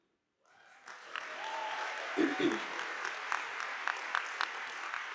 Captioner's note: audience applauding